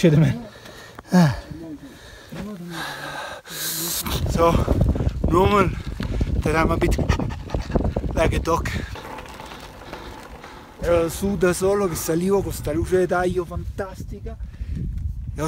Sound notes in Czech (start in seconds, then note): 6.8 dýchá